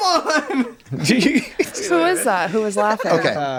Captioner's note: laughs